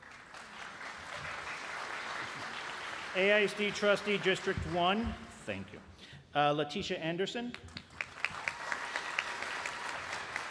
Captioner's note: applause